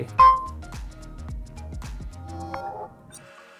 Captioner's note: pin beeping